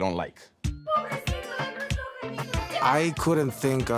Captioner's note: speaking in Spanish